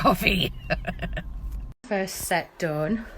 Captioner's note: laughing